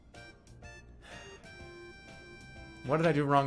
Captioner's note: exhales